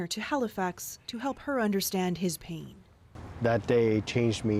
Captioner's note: speaking French